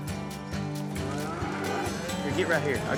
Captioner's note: mooing